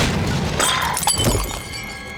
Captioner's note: screaming